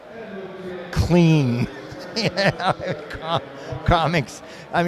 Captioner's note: giggles